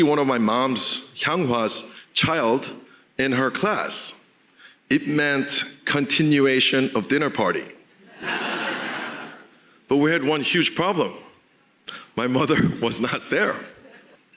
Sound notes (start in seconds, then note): 8.1 audience laughing